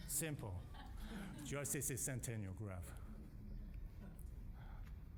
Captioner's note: audience laughing